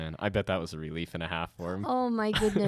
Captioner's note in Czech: Chichotá se